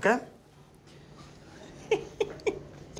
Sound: giggling

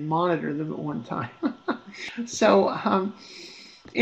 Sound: laughs

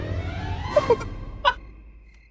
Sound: chuckling

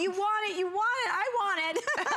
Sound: laughter

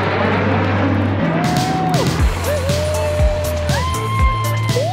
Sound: cheering

